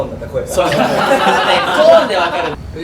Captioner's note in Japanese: 笑い